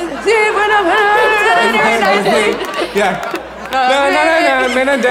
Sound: audience laughs; musical humming

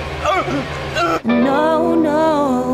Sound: continues sobbing

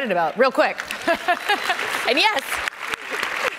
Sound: audience applauding

